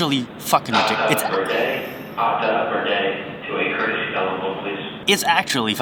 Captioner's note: airport Loud Speaker